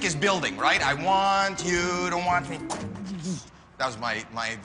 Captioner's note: imitates drums